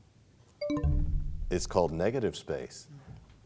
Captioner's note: bell chimes, time expires